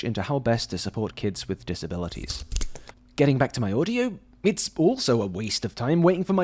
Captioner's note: snip